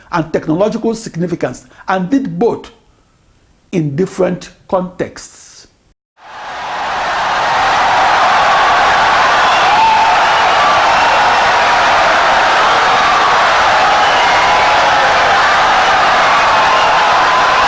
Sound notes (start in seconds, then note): 6.2 wild applause and cheering for 17 seconds